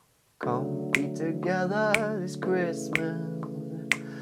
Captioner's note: finger clicks